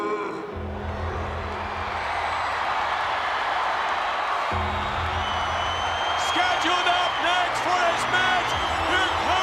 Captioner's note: applause